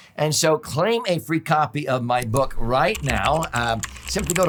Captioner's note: keyboard keys clack